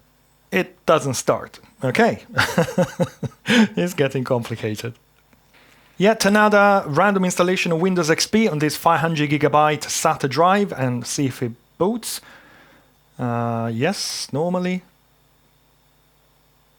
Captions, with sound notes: It doesn't start, okay. (laughing) It's getting complicated. Yet another random installation of Windows XP on this 500 gigabyte SATA drive and see if it boots. Yes, normally.